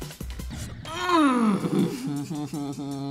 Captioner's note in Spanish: Gruñe; Ríe entre dientes